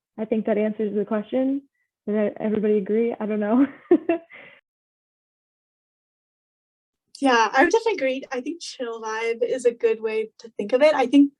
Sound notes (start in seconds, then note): 3.7 chuckles